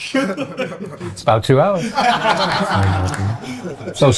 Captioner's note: laughing